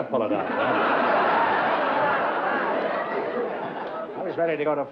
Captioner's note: laughter